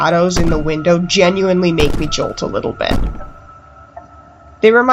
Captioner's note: concurrent banging on the door